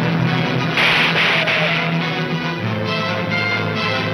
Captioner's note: gunshots banging